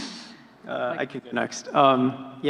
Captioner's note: laughing